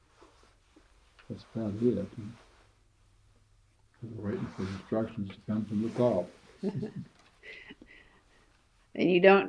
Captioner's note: laughs